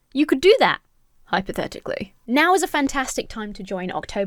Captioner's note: none